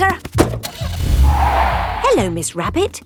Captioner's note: car starting; tires screeching